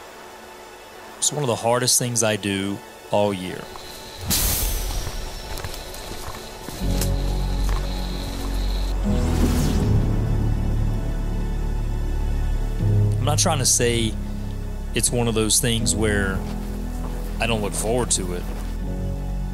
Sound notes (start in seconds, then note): 4.2 arrows whizzing